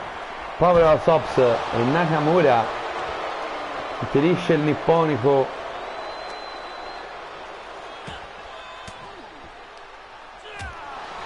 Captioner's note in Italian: Applauso